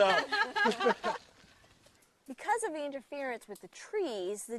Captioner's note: laughs